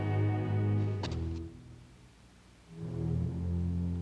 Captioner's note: rustling